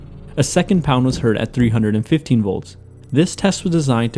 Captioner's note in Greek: χτύπημα στον τοίχο